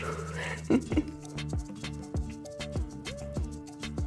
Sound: giggles

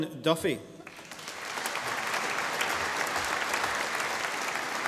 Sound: audience applauding

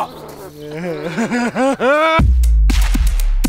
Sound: creepy laugh

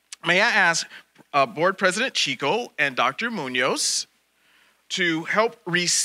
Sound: none

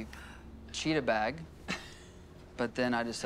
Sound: laughs

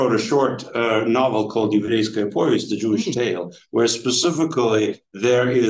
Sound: speaking foreign language

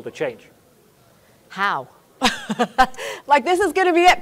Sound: laughs

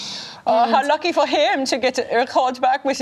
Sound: imitates German accent

